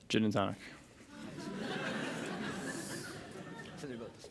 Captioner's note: laughter